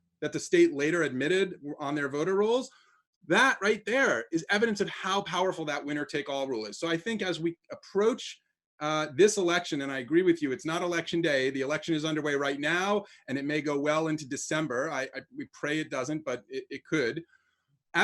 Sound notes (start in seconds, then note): none